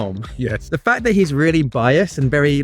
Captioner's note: laughs